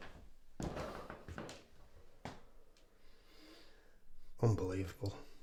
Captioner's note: Shaun exhales sharply